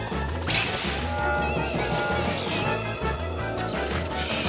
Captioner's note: electricity crackling